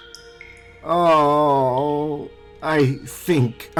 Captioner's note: Apollo groans